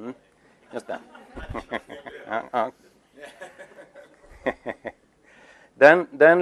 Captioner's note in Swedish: Skrattar